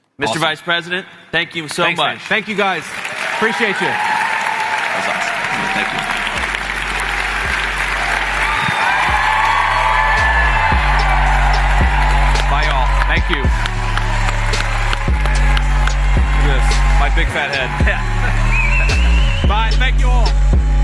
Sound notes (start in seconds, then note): 5.6 cheers; 14.1 cheers